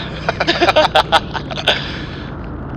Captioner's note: nervous laughers